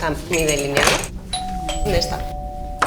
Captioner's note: dorbell